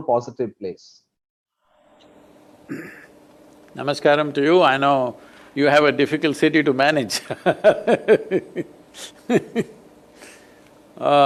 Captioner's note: laughs